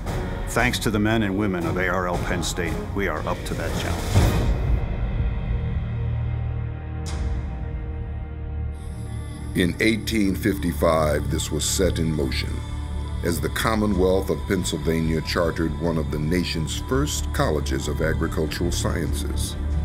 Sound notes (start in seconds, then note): 9.7 voiceover; 19.6 dramatic music plays